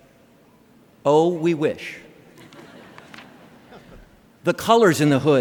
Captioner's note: laughter